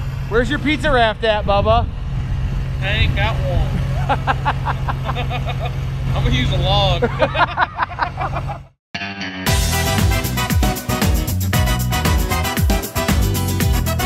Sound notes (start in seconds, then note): 3.7 laughs; 7.8 both laughing; 9.4 festive music